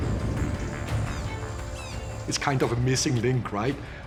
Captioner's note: birds squawking